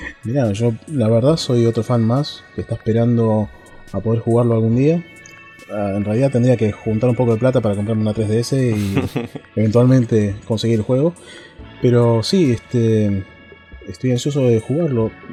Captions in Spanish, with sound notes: Nada. Yo, la verdad, soy otro fan más que está esperando para poder jugarlo algún día En realidad tendría que juntar un poco de plata para comprarme la 3DS y... (risas) ...eventualmente conseguir el juego Pero sí, este... estoy ansioso de jugarlo